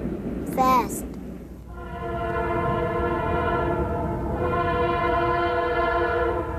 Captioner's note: train hoots